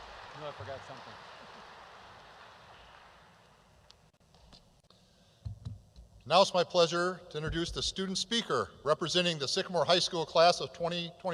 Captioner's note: applause